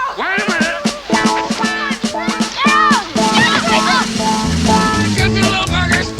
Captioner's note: children yelling